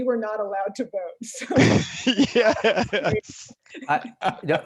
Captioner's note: laughs